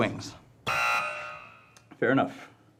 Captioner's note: buzzing